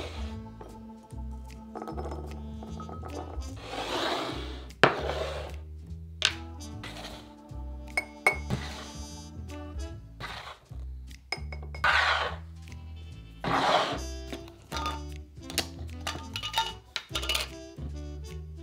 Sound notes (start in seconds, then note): 1.7 chickpeas dropping